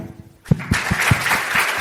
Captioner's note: audience applauds